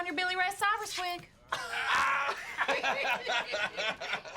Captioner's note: laughter